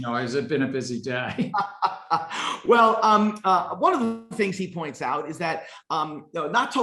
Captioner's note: laughs